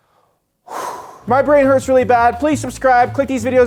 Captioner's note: sighing